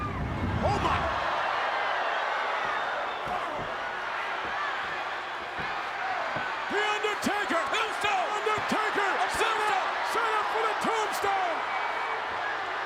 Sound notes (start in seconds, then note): 4.7 crowd chattering